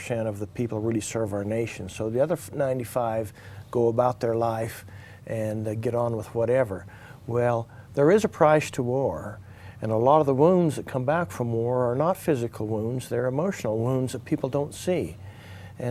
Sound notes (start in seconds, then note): none